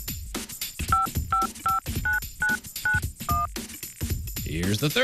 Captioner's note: low- and high-pitched beeping